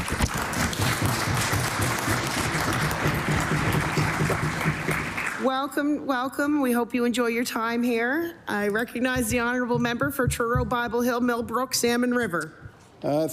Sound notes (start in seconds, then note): 5.3 applause